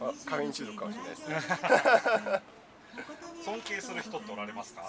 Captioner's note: laughs